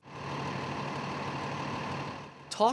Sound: engine rumbling

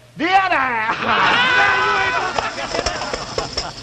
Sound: laughing

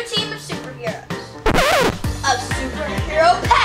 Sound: record scratching

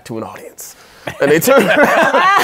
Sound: laughing

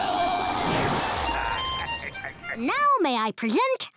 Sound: laughing

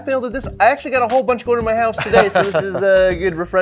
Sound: laughing

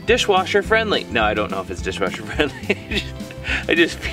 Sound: laughs

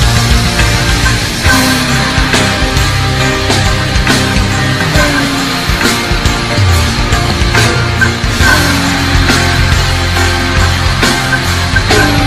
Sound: moaning

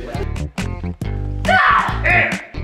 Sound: grunting

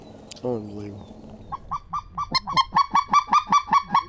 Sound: calling geese

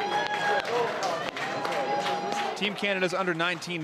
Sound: cheering and Applause

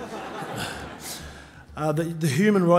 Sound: laughing

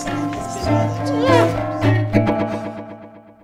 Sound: yells

